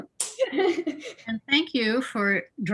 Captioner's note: laughs